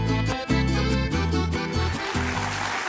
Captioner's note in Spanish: Aplausos